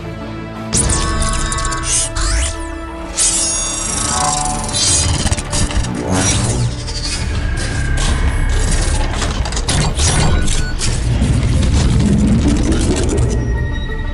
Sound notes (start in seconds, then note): 0.0 epic Music; 0.7 mechanical Sounds Effects